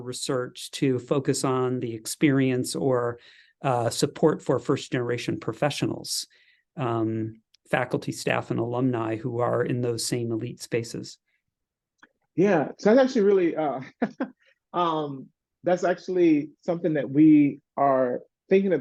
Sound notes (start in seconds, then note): 13.8 laugh